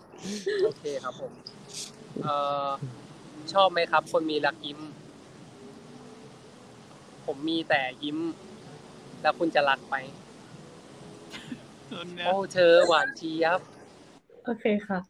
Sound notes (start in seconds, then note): 2.7 answers in Thai